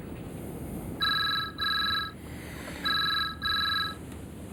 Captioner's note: phone ringing